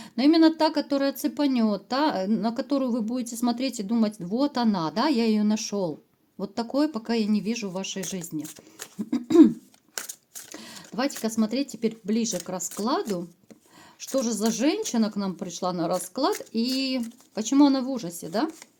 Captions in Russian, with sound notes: но именно та, которая цепанёт, та, на которую вы будете смотреть и думать: "Вот она, да, я её нашёл". Вот такое пока я не вижу в вашей жизни. [откашливается] Давайте-ка смотреть теперь ближе к раскладу. Что же за женщина к нам пришла на расклад? И почему она в ужасе, да?